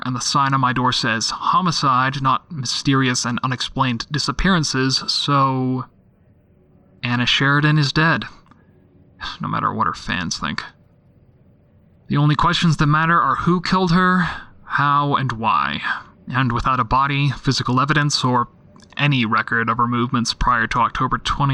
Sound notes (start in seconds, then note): none